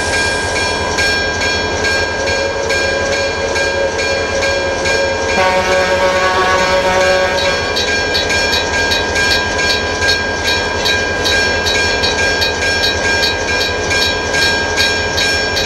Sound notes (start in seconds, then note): 1.1 CB&Q Pioneer Zephyr bell ringing; 5.1 CB&Q Pioneer Zephyr horn, railroad crossing ringing